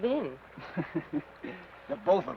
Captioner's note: Ben chuckles